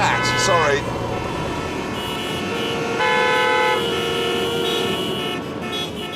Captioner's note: car horns blaring